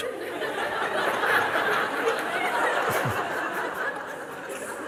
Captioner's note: Lachen